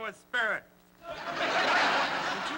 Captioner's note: laughter